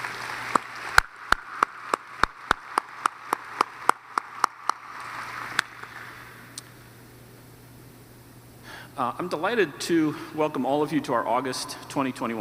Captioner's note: applause